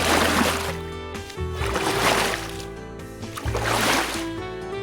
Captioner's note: splash...Splash